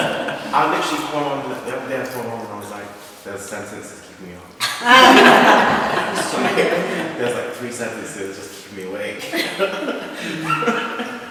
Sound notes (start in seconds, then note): 4.6 laughter; 9.2 laughs